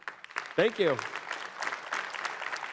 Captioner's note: applause